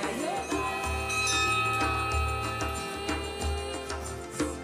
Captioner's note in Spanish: Suena la campana del templo